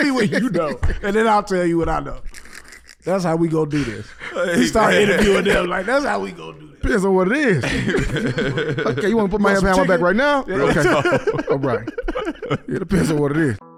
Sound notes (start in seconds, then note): 7.3 laughs